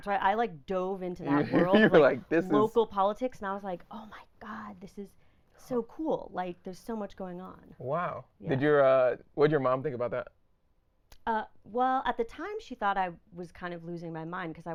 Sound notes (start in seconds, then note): 1.3 laughing